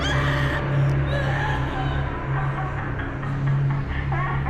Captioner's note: Paula screaming; soft intense music; captive laughing; soft eerie music